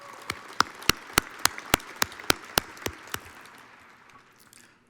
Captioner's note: audience applauds